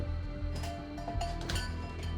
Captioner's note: doorbell clangs